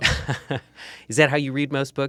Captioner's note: chuckles